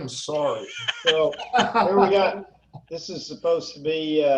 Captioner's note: laughing